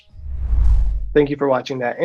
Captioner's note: air whooshing